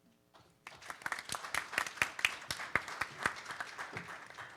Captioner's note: participants applaud